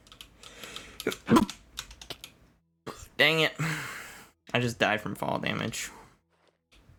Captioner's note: sneeze